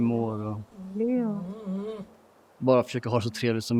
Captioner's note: A dog whines